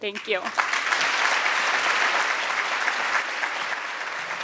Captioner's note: audience clapping